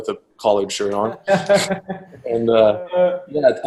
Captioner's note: laughs